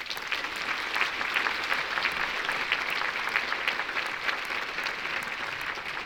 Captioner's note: applause